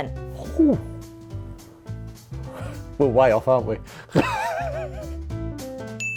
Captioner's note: laughs